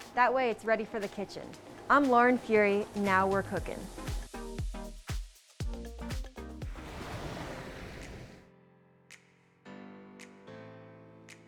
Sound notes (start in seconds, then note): 6.7 waves crashing; 7.6 light music